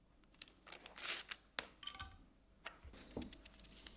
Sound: rustling

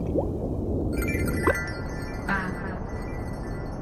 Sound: magical jingling sound

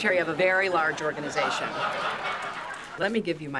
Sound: laughter

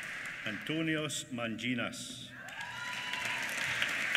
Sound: applause

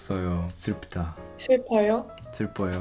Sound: Korean

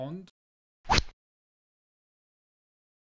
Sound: rod sound

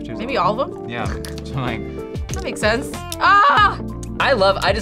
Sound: yells

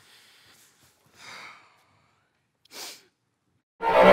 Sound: sighs

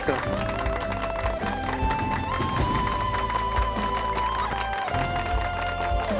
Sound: applause; dynamic music playing

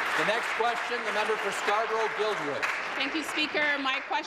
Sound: applause

